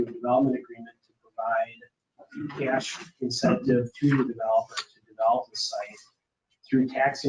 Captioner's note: speaking faintly